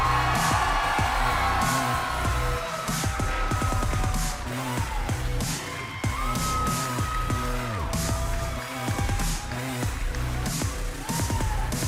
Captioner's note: crowd cheering